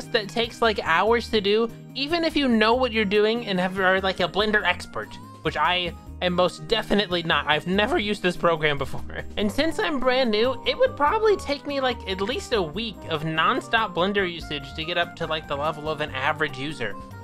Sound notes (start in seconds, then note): none